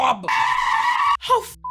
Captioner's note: screaming